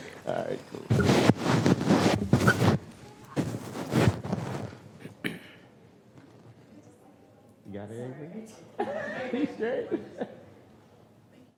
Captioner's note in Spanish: risas